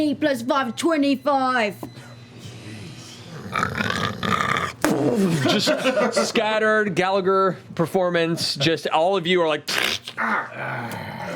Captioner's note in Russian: звук удара; храпит; хлюпанье плоти